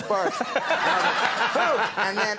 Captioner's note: audience laughing